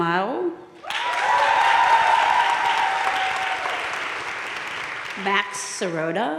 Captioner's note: audience cheering and applauding